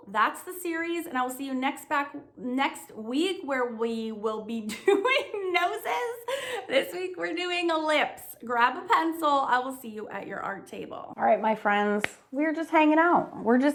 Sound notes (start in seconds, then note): 4.7 laughs